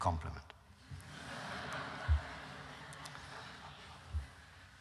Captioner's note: laughter